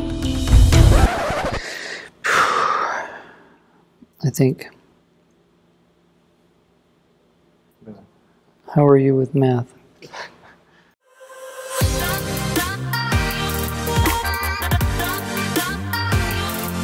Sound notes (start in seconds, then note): 1.6 breaths deeply; 11.7 upbeat music